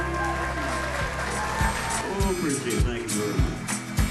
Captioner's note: applause